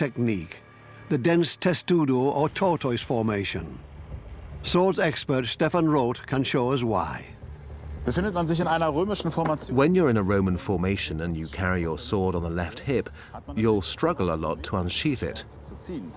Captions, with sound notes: the dense testudo or tortoise . Swords expert Stefan Roth can . (in German) (dubbed in English) In a Roman , your sword is on the left hip, so you'll struggle to unsheathe.